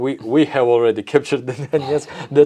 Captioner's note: laughs